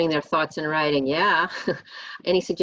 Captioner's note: chuckles